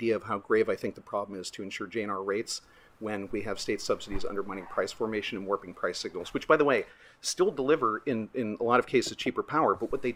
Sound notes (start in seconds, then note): none